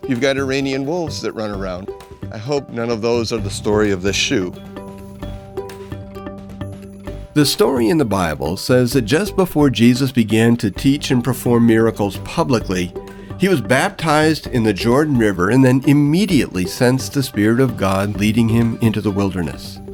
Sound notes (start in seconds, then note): none